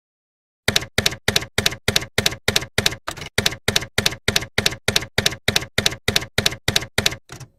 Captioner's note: typewriter keys clacking